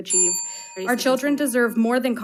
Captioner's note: bell dings